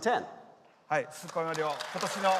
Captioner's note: applause